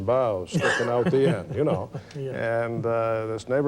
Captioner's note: laughs